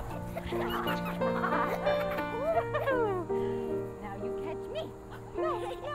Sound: sweet piano music; both laughing

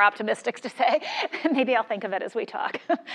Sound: laugh

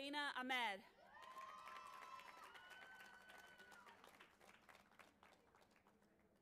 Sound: audience applauding and cheering

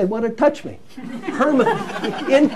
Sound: laughter

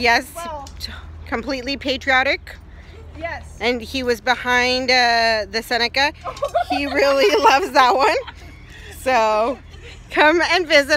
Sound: falls, laughter

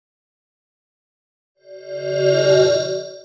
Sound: swoosh

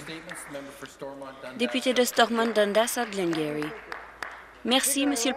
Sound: some Applause

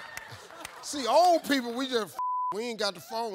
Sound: beep

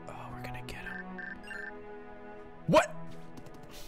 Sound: email notification noise

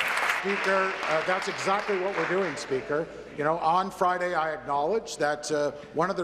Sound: applause

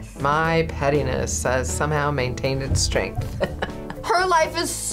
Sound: laughs

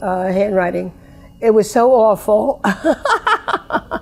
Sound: laughs

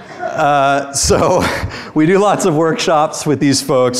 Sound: students laugh; chuckles

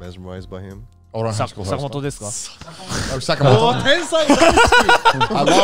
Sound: group chattering

